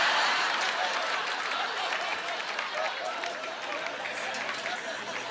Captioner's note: laughing